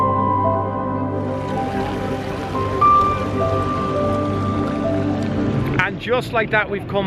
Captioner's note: water fountain splashing